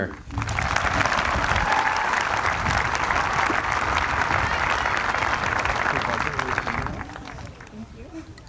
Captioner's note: applause